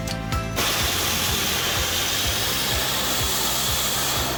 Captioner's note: flames hissing